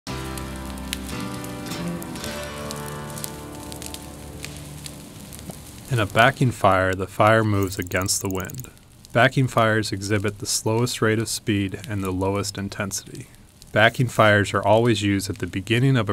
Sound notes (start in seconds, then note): 0.0 acoustic music; 0.2 fire crackling